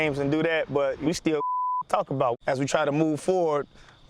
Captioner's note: beeps